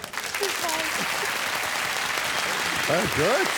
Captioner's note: applause